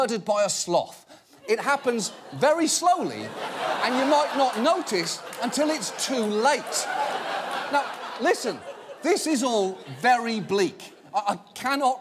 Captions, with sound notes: It's like being murdered by a sloth. It happens very slowly and you might not notice -until it's too late. -(AUDIENCE LAUGHS) Now, listen, this is all very bleak.